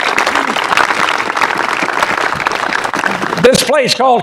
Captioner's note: applause